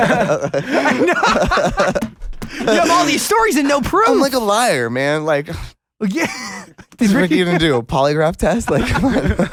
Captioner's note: laughs; scoffs